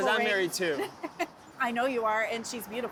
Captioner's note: laughs